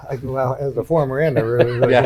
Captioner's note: laughs